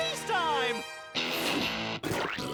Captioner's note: belches loudly